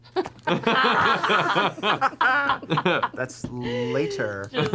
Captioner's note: laughter